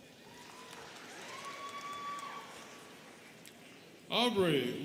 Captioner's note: students cheering and clapping